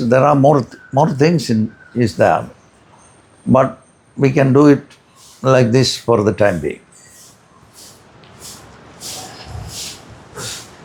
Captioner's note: snorts